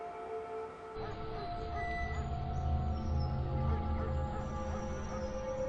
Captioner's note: dog barking in distance